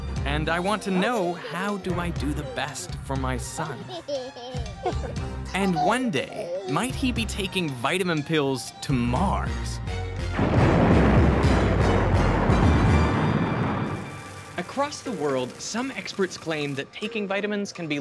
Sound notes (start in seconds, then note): 3.5 baby giggles; 10.3 loud explosion